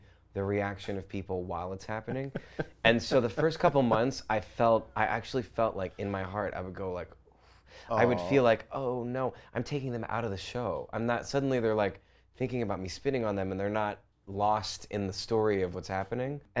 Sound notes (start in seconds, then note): 2.1 laughs